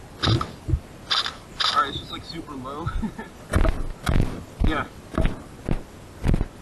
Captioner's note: laughs